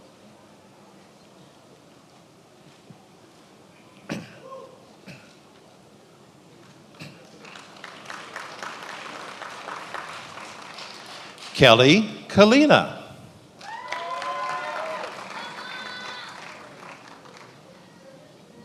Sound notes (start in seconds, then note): 13.6 attendees applauding